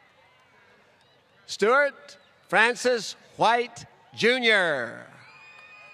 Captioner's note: applause